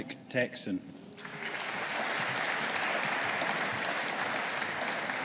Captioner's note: audience applauding